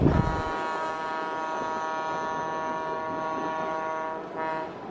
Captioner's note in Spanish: sonido del tren Buscarril y la bocina/claxon